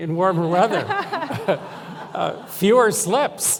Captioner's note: laughter